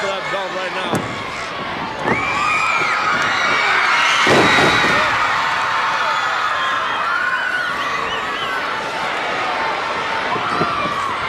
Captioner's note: crowd cheering